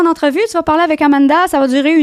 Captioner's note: in french